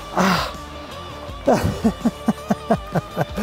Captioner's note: laughter